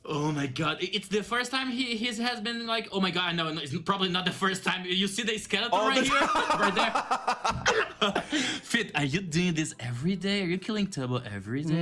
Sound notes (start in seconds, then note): 5.8 laughs